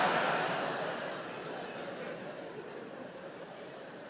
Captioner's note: audience laughs